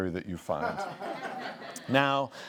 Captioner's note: laughs